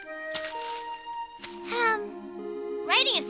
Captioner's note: paper crumbling; sighs